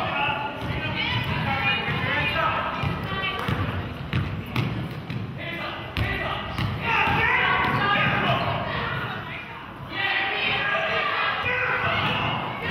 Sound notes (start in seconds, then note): 7.6 coach hollering